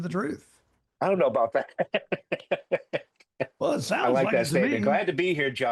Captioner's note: laughs